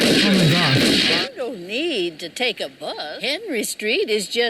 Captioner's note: chuckles